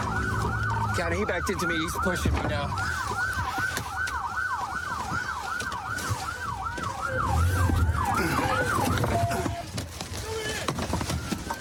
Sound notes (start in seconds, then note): 2.8 sirens blaring